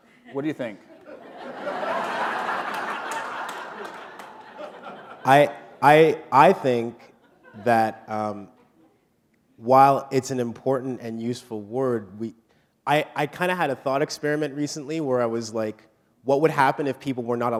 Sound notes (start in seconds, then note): 2.5 laughter